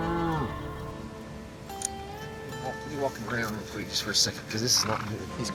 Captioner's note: sighs